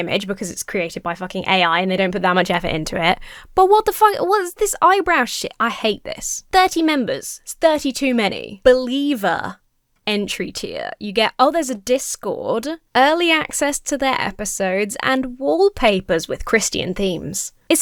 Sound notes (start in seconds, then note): none